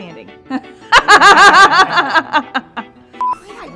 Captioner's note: laughing